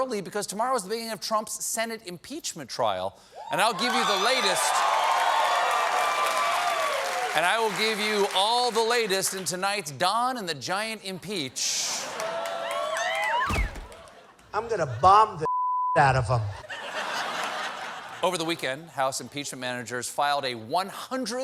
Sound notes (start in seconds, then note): 3.4 cheers and applause